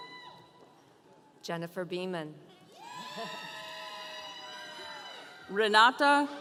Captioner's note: audience cheering